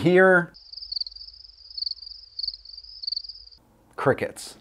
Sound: crickets chirping

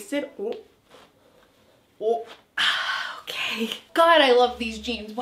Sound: sighs

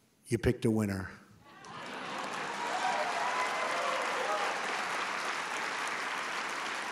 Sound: applause

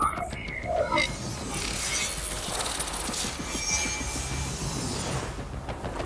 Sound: electronic whirring

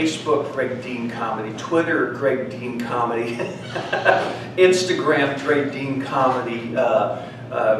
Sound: laugh

